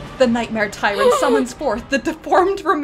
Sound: gasp

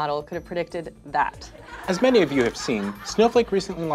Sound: audience laughing

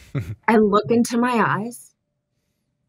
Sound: chuckles

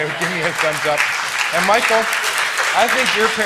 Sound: applause

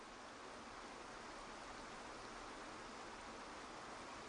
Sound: water flowing

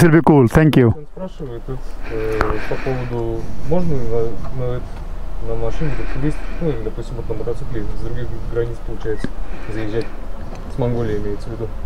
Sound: speaking in Russian

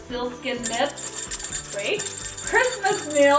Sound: bell tinkling

